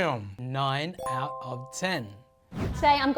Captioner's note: chime